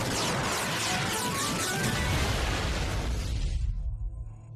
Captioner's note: explosion